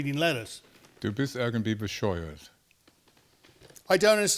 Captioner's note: speaking German